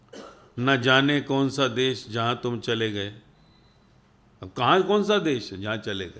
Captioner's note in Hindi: गला साफ़ करने की आवाज़